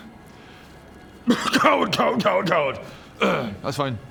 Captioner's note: cough